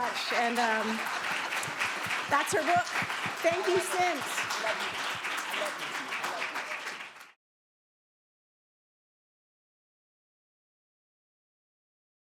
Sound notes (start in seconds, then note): 6.3 applause